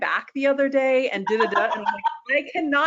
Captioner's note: laughs